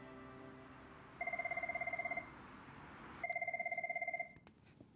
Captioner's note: phone ringing